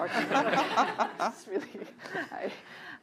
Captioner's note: laughter